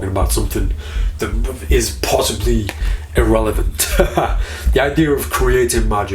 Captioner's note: laughing